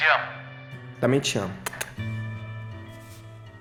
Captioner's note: smack, smack